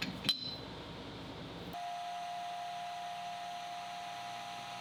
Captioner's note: machine whirling